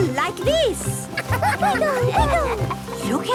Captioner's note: laughter